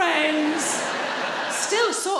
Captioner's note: audience laughing